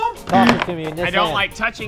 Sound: buzzer

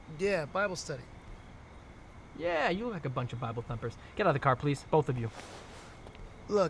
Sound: none

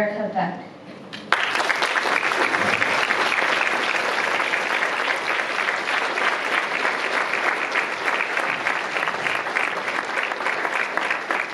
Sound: applause

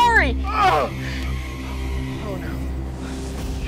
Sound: groaning in pain

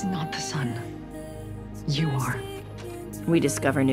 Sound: door opens

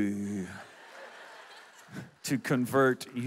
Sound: audience laughs

